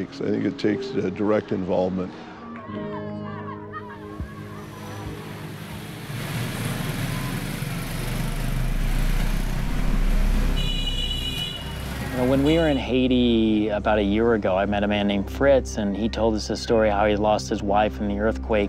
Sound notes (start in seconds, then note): 4.4 motor running; 9.9 horn honking